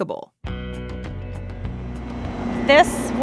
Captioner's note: sound of machinery whirring